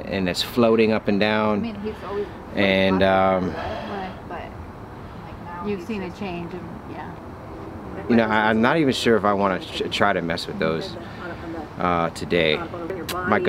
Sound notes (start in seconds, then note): 5.6 background chattering